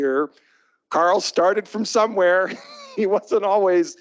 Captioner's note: chuckles